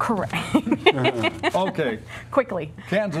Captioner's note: laughter